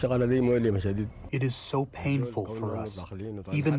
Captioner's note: through translator